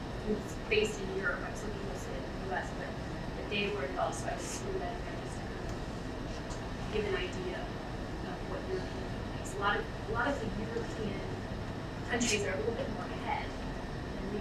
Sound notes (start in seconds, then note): 1.4 speaking away from mic; 8.4 speaking away from mic